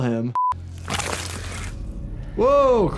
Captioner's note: splashing